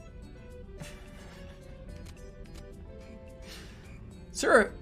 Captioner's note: holding out laugh